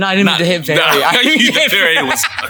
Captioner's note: both laughing